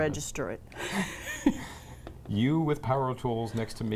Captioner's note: laugh's